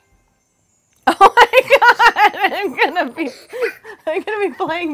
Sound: laughing

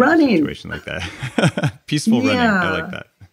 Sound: laughs

